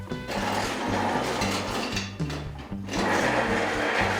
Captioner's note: wheels rattling